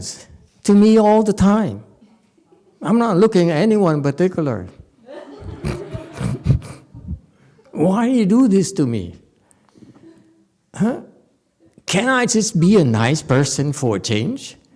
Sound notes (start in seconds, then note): 5.0 audience laughs